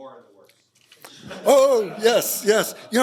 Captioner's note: laughter